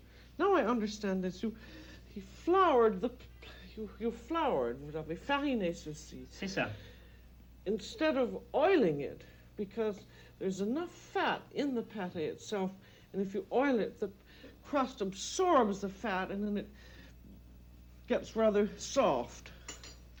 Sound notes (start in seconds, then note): 5.6 speaking French